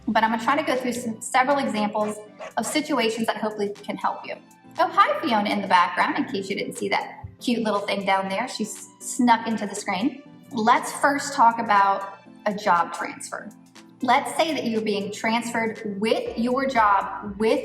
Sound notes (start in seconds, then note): 2.3 dog panting